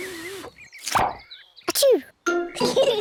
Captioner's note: sneezes; both giggle